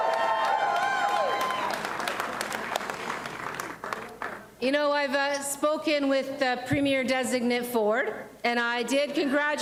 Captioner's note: applause and cheering